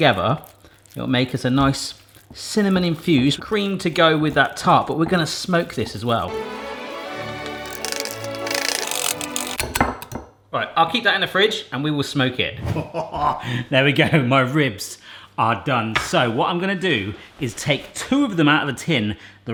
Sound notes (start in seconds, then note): 6.5 metallic banging; 12.8 chuckling